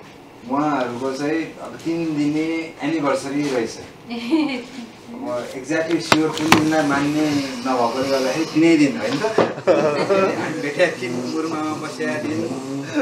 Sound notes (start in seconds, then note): 4.1 giggles; 9.2 laughter